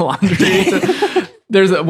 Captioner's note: laughing